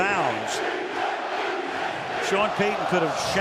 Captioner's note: crowd chanting